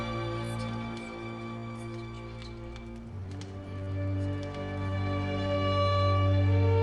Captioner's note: fire crackling